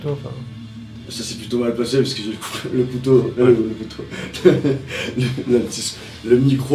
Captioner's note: laughs